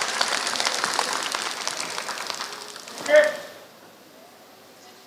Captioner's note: applause